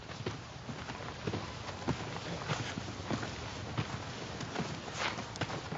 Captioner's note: shuffling